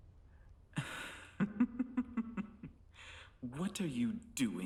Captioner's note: Hindley laughing